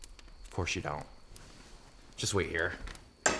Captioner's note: scoffs